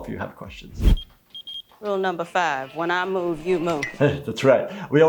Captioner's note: pager beeps